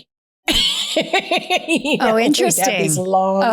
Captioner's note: laughing